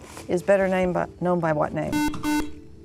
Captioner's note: buzzer